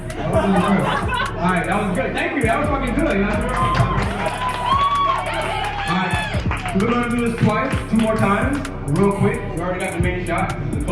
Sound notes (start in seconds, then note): 0.3 laughing; 3.7 applauding